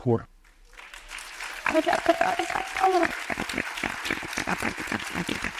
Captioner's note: audience applauds